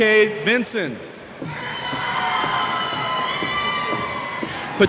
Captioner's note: cheers